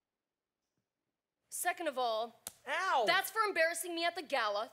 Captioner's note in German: slap